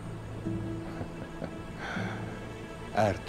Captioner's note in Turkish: Gülme sesi